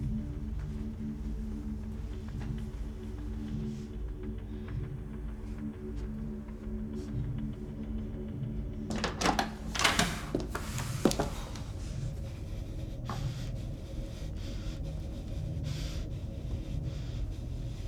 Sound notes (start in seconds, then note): 8.8 door clattering; 12.3 Dorothy breathing heavily